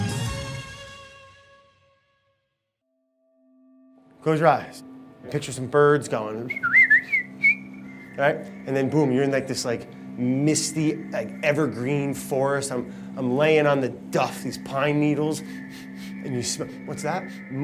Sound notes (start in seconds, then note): 6.4 whistles; 15.4 sniffing